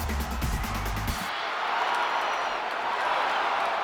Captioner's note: crowd roars